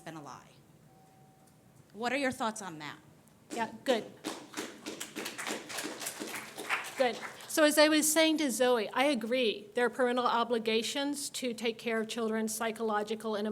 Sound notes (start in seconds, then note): 4.2 scattered applause